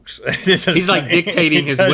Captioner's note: laughs